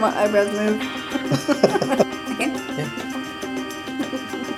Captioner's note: laughs